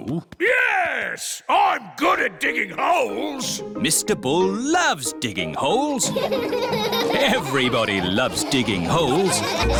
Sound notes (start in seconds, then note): 6.0 all laughing